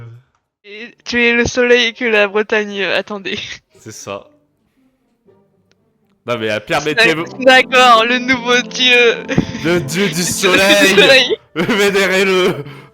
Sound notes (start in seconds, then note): 9.3 small laugh; 12.7 laugh